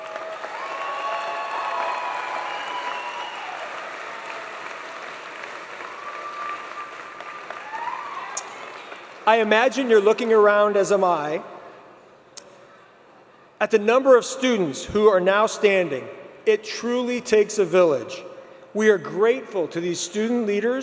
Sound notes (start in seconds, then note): 6.5 applause